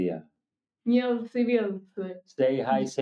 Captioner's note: speaking foreign language